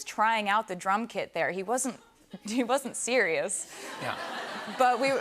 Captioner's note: laughter